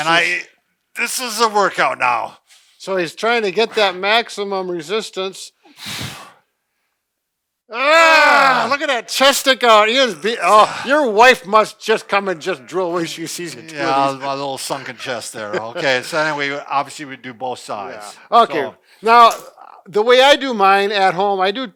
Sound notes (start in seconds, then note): 7.8 groaning